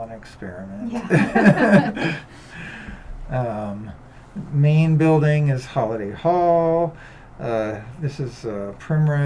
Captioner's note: laughter